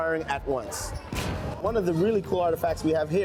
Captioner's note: cannons blasting